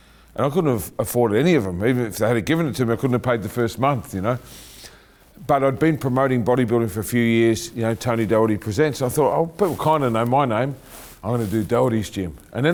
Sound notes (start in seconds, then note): none